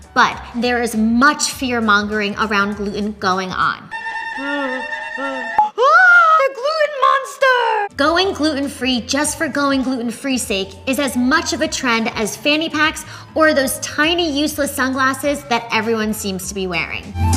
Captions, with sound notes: but there is much fear-mongering around gluten going on. (discordant music) (screaming) Gluten monster! Going gluten-free just for going gluten-free's sake is as much of a trend as fanny packs, or those tiny, useless sunglasses that everyone seems to be wearing.